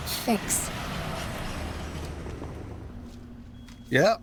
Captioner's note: engine purring